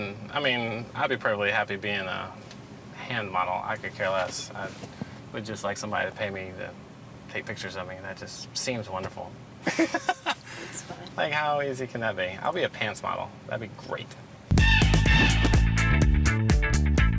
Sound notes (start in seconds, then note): 9.6 laughing; 14.5 upbeat music